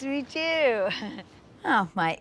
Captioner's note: giggles